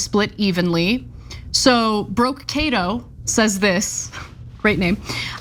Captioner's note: laugh